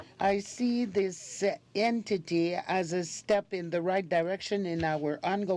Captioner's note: speaking French